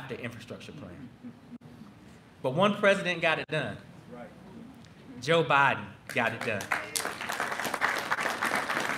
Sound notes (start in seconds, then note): 6.0 applause